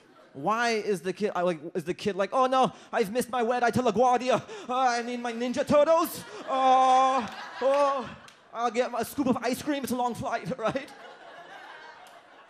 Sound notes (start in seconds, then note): 5.9 audience laughs